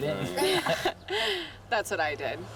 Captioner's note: laughter